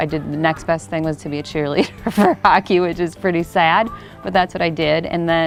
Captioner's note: laughing